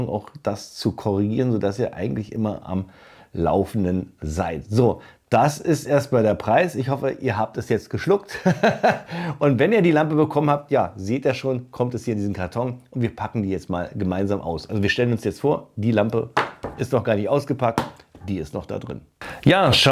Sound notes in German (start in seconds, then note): 8.3 gelächter